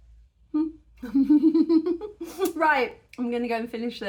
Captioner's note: laughing